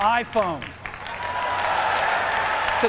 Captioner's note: applause